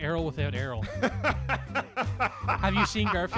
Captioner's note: laughs